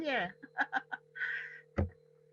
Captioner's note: laughs